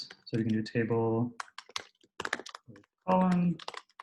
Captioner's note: typing